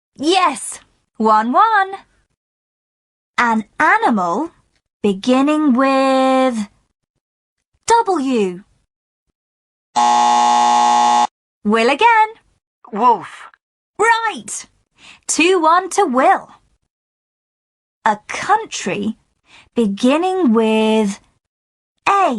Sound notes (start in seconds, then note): 8.3 buzzer